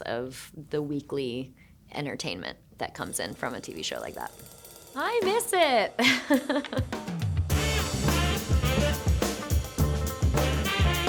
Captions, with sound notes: of the weekly entertainment that comes in from a TV show like that. (cymbals clanging) I miss it. (Shailene chuckling) (upbeat music)